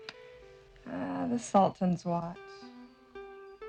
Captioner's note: gentle music; sighs